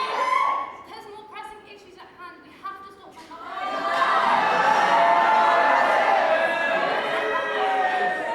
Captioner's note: audience screams DO IT and cheers very loudly; drowned out by audience booing